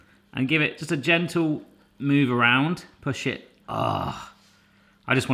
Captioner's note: moans